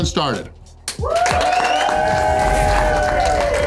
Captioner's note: crowd cheering